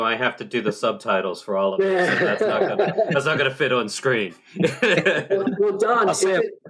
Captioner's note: laughter